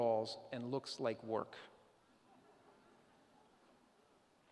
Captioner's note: laughter